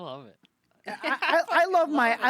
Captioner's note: laughing